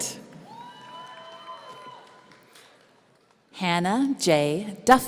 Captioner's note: audience cheering